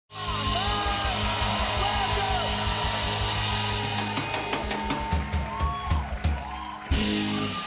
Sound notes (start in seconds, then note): 2.6 cheers and applause